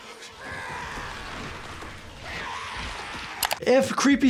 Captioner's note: Pennywise yelling